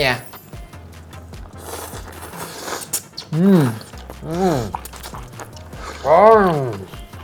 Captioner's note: slurping